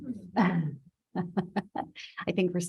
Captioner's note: laughs